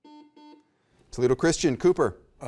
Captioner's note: button beeping